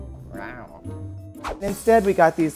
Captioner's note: growls; gentle music